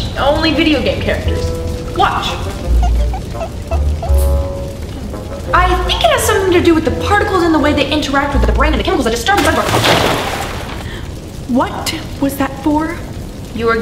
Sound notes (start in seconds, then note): 3.0 squeaking; 9.4 water splashes